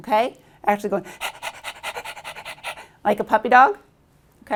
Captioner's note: panting noises